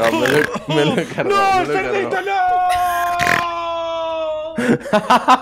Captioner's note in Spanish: ríe como un cerdo; ríe como un cerdo